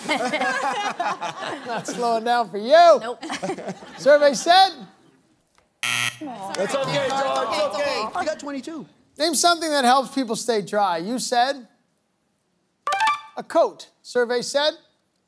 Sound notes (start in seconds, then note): 0.0 laughter; 5.8 buzzer sounds